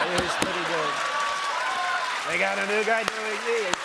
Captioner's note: laughter and applause